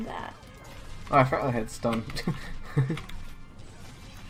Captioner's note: laughs